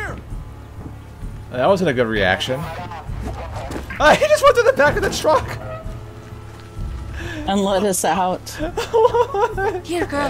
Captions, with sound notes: Uh, that wasn't a good reaction... Uh, that wasn't a good reaction... Ah, he just went through the back of the truck! Ah, he just went through the back of the truck! And let us out. And let us out. (laughs) And let us out. (laughs) And let us out. (laughs) (laughs)